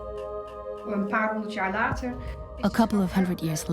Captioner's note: speaks Dutch